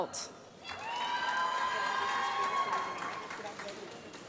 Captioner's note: applause